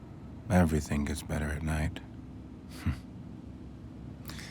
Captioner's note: chuckles